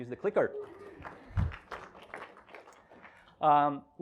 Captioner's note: applause